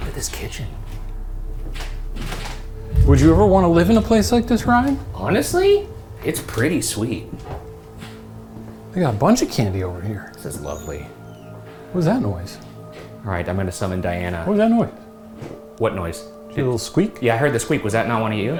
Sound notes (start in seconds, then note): 11.7 house squeaking